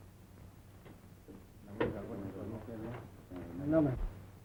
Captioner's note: quiet discussion in Spanish